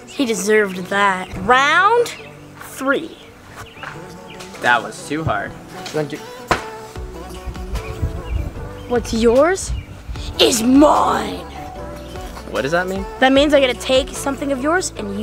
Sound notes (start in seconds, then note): 6.4 ball hitting board